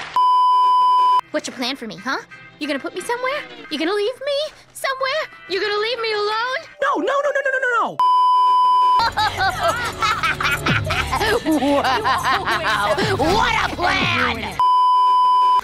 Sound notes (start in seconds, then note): 0.2 beeeeeep; 8.0 beeeeeep; 9.0 insane laughter